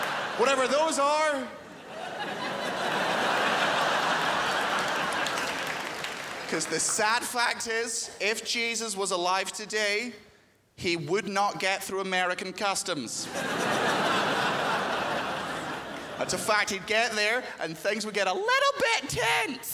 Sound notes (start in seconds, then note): 0.0 crowd laughs; 3.2 crowd laughs; 13.2 crowd laughs